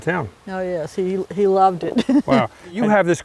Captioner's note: laughs